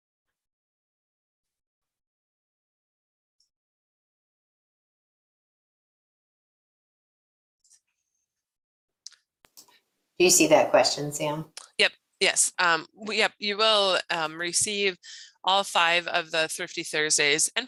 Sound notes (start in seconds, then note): 9.5 mouse clicks